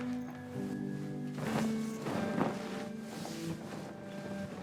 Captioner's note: zipper clattering; sheet popping